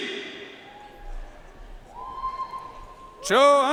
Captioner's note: audience cheering and applauding